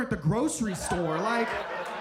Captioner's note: audience laughing